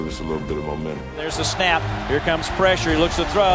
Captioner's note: voiceover